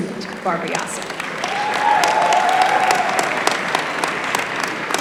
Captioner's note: applause